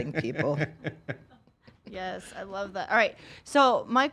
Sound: laughing

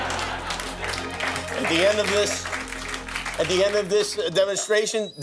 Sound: laughter

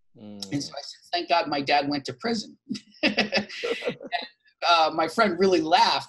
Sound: laughs

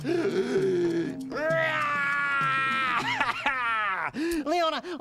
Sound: inhaling deeply; roaring

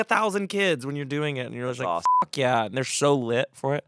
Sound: beep

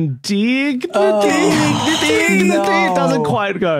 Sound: group clamouring

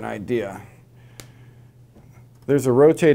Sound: no audio

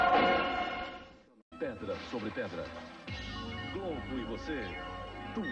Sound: male announcer speaking Portuguese

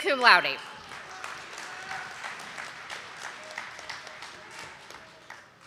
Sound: audience applauding

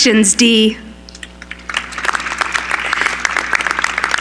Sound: applause

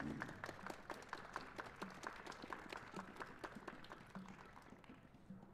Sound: applause

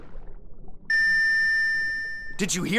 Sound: beeping

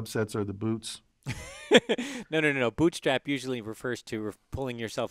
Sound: laugh

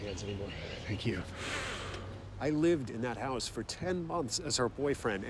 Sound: breathes heavily

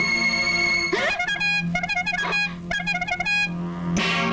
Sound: horn blares

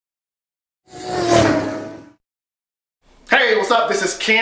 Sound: car zooming

